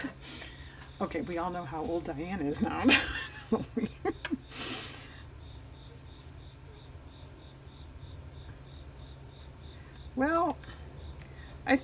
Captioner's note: laughs